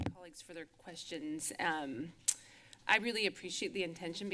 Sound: lips smacking

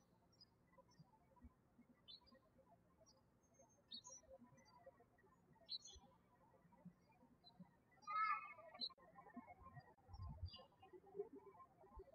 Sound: birds chirping

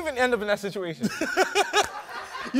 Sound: laughing

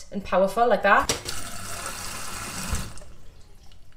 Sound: water spurts

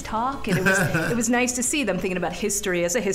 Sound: laughing

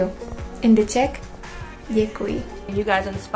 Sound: in foreign language

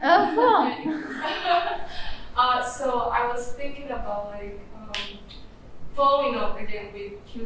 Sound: laughs

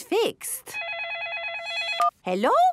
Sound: phone ringing

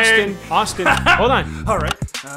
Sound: button clicks

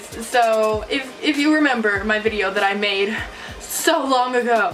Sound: mirthless exhale

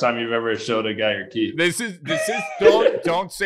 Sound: laughing

